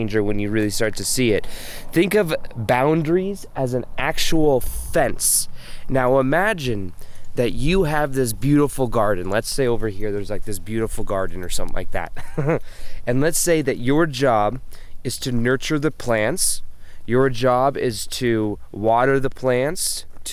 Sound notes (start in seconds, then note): 12.2 laughs